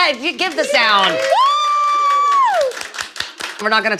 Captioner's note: people cheering